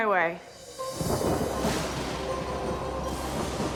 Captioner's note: thud sound